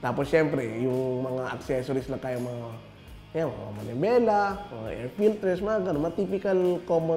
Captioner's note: none